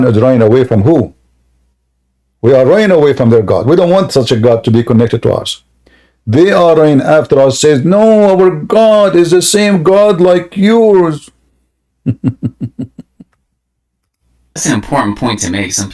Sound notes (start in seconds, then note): 12.0 Ketawa